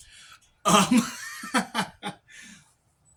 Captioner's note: laughs